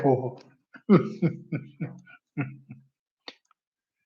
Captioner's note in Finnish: naurua